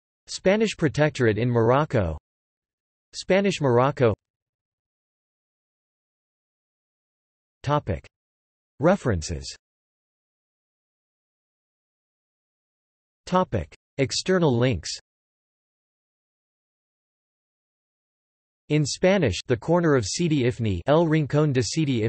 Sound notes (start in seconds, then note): 12.6 in Spanish